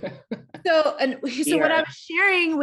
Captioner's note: laughing